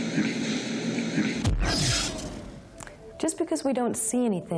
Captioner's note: static buzzes